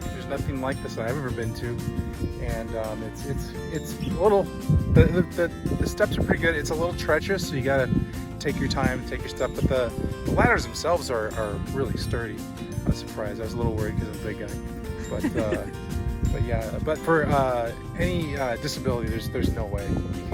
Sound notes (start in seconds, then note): 15.0 laughter